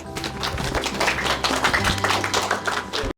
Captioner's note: applause